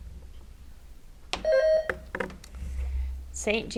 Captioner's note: bell rings